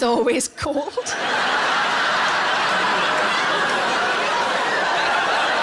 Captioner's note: audience laughs